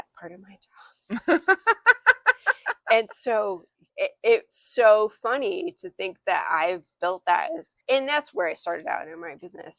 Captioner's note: laughter